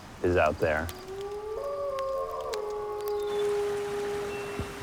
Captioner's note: wolf howls